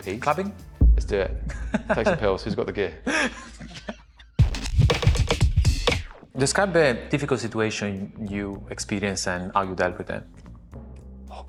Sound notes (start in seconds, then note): 3.0 both laughing